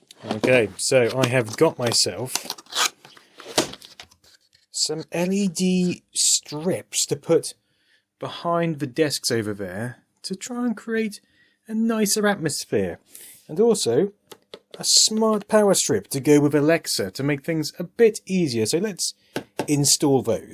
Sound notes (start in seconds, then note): 3.0 scraping